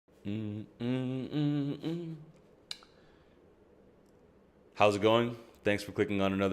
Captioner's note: humming